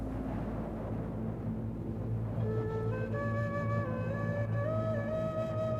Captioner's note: wind blowing